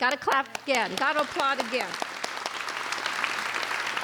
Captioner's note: applauding